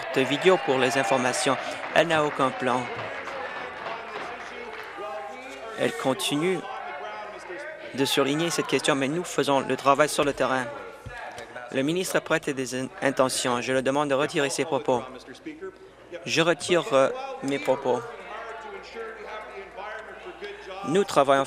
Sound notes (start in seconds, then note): 7.2 applause